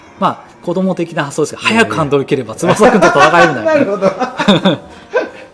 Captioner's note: laughs